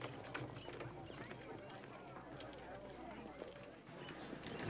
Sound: chatter

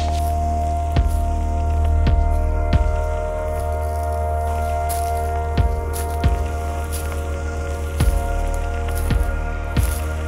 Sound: vegetative debris crunching; vegetative debris crunching

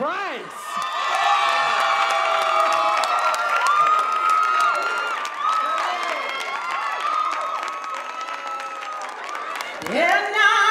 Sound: cheers and applause

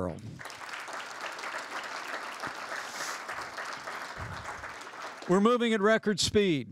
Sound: applause

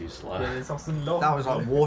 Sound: speaking in a foreign language

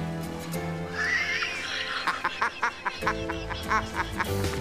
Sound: laughs

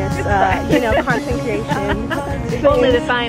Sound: laughs

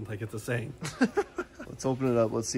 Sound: laughs

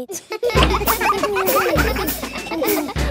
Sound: children laughing

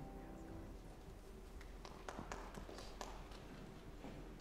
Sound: scattered applause

